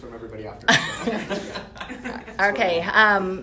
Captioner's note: laughter